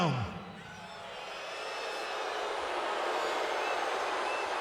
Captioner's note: crowd boos